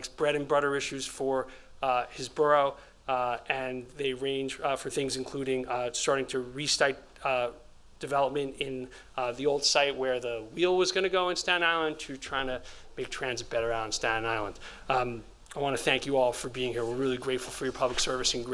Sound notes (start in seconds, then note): none